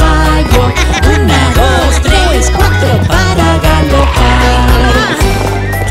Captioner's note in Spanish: Risas